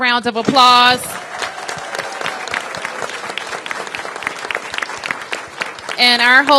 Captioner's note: applause